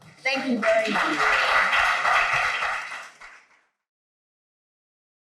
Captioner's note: audience applauds